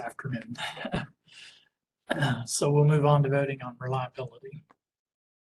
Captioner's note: chuckles